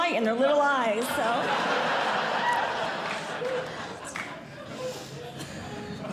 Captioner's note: audience Laughing